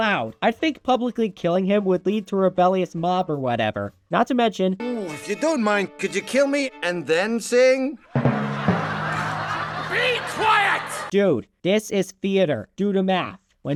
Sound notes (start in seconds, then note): 8.1 rimshot and laughter